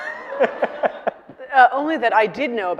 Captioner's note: audience laughing